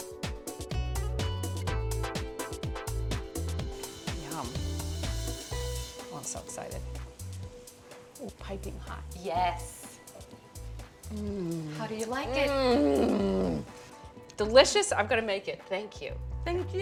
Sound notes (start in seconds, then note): 12.2 moans